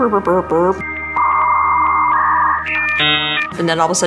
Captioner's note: funny sounds; 56k modem sounds